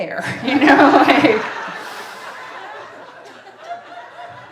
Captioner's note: audience laughing